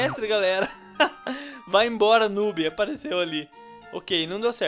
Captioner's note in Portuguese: Risos